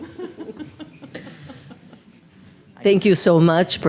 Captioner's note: laughs